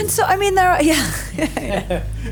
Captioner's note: laughing